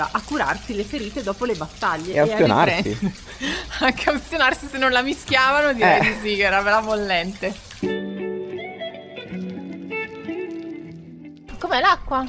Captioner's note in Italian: risate